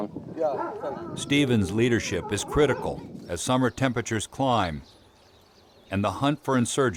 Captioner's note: voiceover